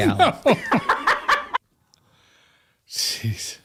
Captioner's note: laughter